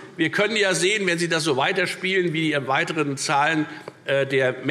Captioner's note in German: none